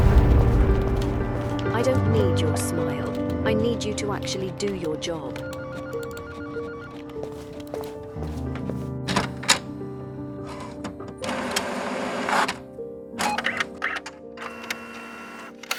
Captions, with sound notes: I don't need your smile. I need you to actually do your job. [photocopier whirring] [copying sounds]